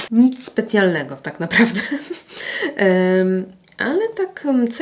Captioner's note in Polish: śmiech